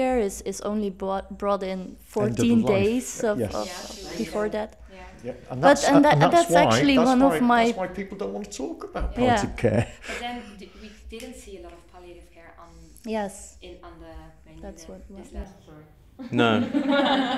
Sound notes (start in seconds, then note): 12.7 indistinct chatters